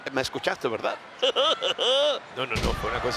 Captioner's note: laugh